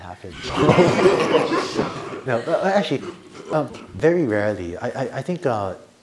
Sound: laughter

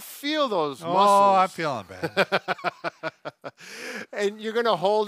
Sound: laughs

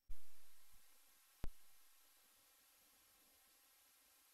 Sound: quiet TV static

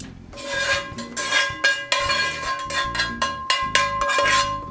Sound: scraping

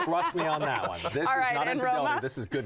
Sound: laughter

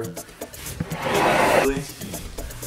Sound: door sliding noise

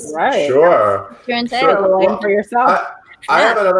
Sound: murmuring

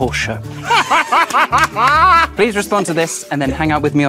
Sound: group laughs

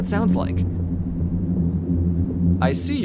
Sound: low-frequency humming

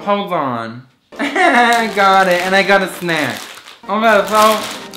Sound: laughing

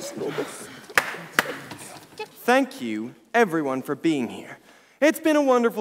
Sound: two claps

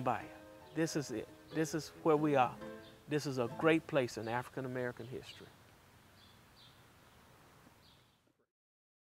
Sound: possibly no audio

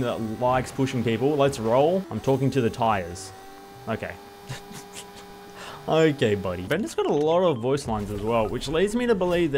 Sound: laughs

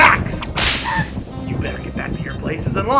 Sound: whip cracking; gasping

